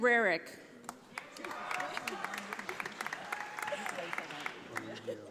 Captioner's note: audience applauding